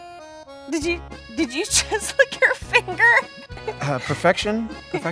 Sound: laughs

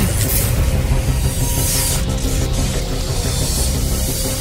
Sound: electric zapping

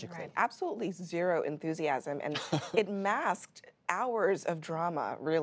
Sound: laughter

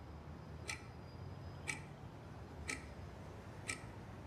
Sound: ticking continues

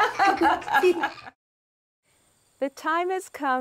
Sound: laughing

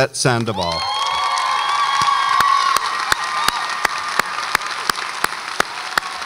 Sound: audience applauds and cheers

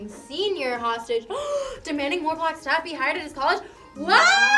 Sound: gasps

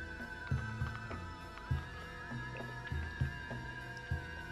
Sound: slurps

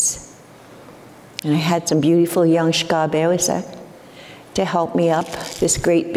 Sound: foreign speaking

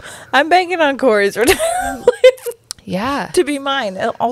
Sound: laughs

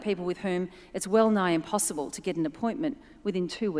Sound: none

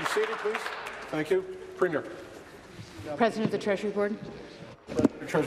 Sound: applause

